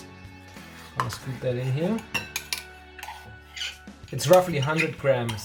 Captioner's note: scraping